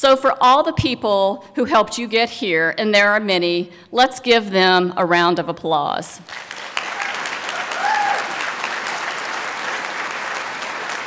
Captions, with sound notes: So for all the people who helped get you here, and there are many, let's give them a round of applause. (applause)